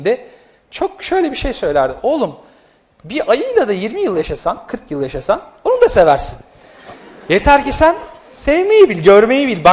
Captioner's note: laughs